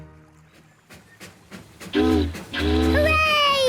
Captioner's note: boat horn honking; chugging